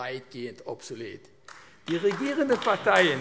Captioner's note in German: Beifall AfD